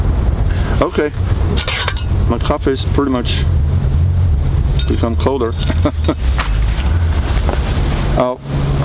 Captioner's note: laughing